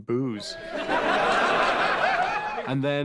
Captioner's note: crowd laughs